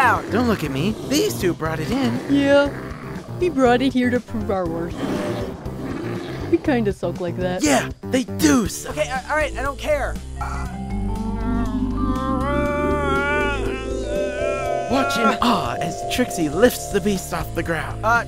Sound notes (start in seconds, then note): 10.4 magic noises